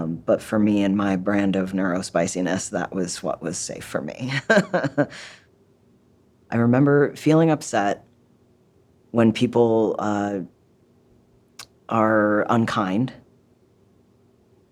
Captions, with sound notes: But for me and my brand of neurospiciness, that was what was safe for me. [Laughs] I remember feeling upset when people are unkind.